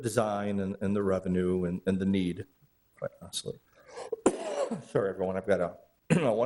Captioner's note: coughs